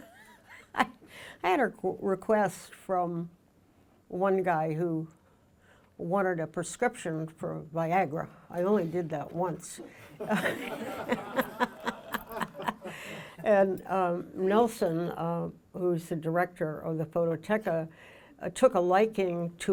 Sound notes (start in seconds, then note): 0.0 laughs; 9.8 laughs; 9.9 audience laughing